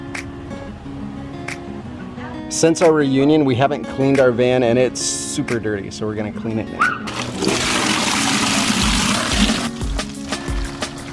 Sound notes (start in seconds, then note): 0.1 upbeat music; 7.0 water flowing